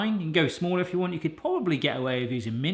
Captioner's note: none